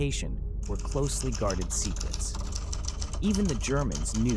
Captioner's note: typewriter clicking